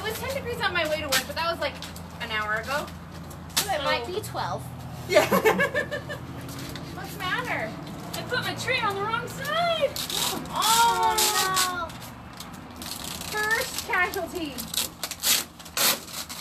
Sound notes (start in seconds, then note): 5.0 laughs